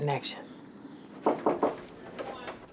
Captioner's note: knocking on door